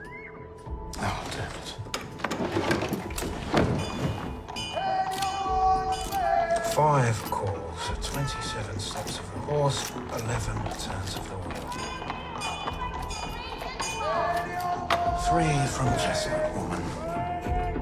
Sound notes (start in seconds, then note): 8.5 bell ringing in distance